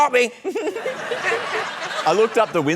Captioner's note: laughter